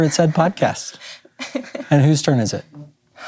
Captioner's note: laughs